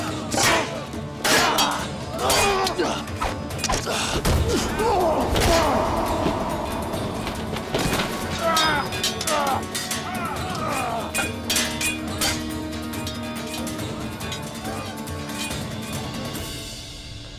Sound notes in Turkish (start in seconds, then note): 5.1 Dövüş sesleri; 10.8 Müzik - Hareketli